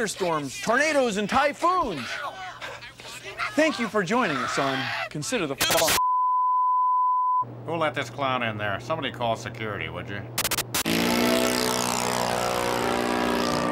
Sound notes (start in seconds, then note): 6.0 <i> beeping</i>; 8.5 <i> beeping</i>